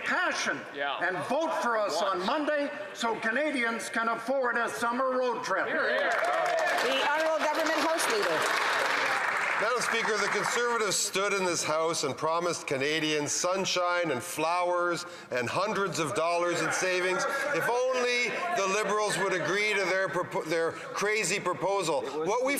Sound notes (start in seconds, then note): 8.5 applause